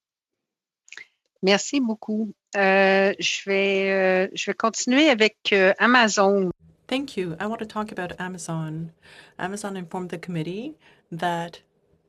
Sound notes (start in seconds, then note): 8.9 speaking French